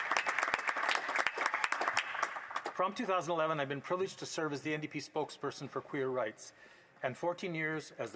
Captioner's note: applause